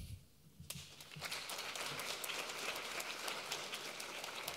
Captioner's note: audience applauding